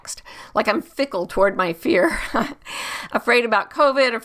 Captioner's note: laughs